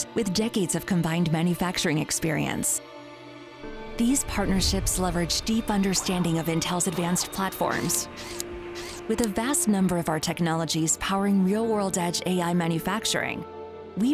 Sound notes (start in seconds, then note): 3.0 intense instrumental music; 8.0 machine whizzing